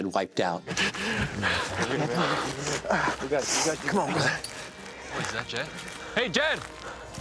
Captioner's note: all grunting